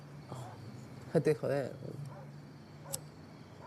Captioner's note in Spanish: Turca